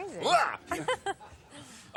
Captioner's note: laughs